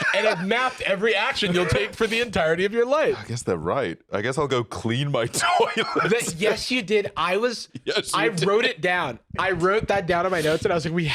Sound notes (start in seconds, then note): 5.2 laughing